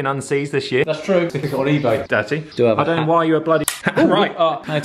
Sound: snap

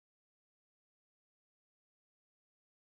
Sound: none

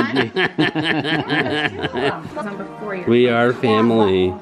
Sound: laughing

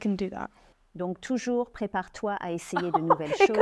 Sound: French

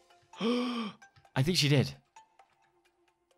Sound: gasps

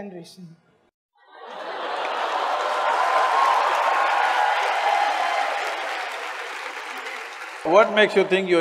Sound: laughter/Cheer/Applause

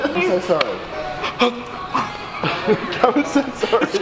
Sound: gasps

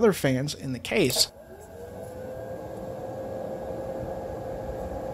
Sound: lower pitched fan noise

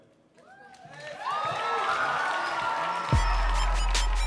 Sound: audience cheering; upbeat music

